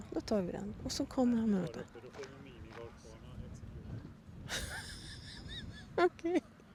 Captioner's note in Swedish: skratt